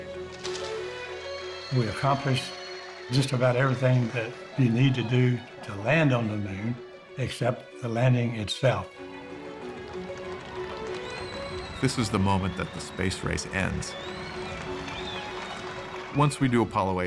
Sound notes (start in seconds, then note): 0.8 cheers and applause; 9.1 cheers and applause; 14.3 applause